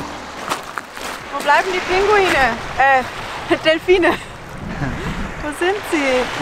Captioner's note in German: Lachen